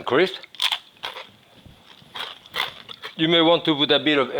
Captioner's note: croutons crunching